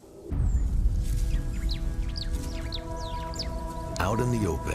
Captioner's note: birds chirping; suspenseful music